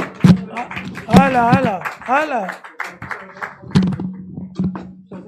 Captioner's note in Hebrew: מחיאות כפיים